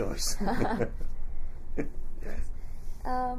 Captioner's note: laughs